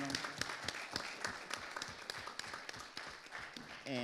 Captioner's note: audience applauding